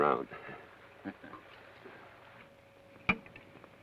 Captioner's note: Joshua chuckles